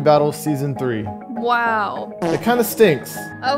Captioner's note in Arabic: صوت ضرطة